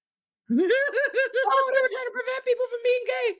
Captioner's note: laughing